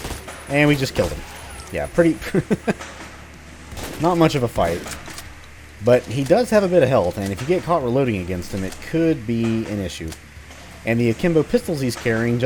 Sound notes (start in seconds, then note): 2.1 laughs; 3.7 more gunfire